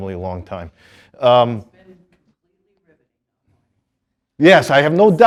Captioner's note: student murmuring